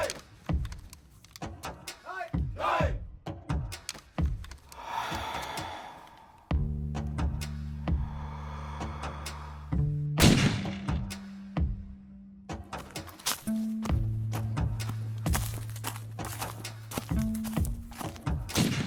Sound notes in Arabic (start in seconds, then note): 4.6 الرئتين الزفير sfx; 6.7 تستمر الموسيقى الميكانيكية الهادئة; 8.0 الرئتان تستنشق sfx; 11.7 تستمر الموسيقى الميكانيكية الهادئة; 15.3 تستمر الموسيقى الميكانيكية الهادئة